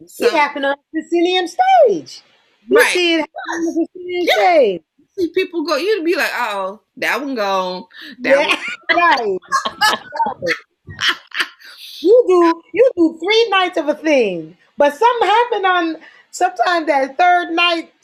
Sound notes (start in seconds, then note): 8.3 laughter